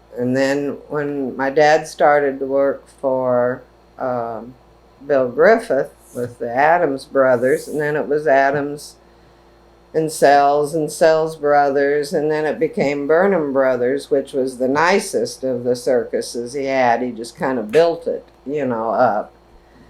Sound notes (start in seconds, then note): none